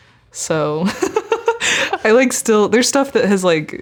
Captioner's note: laughing